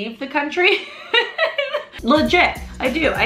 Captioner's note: laughs